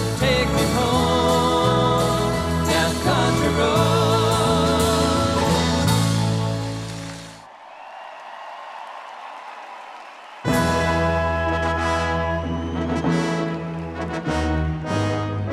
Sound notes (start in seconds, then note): 6.7 audience cheers; 10.4 uplifting music